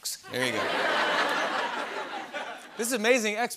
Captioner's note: laughter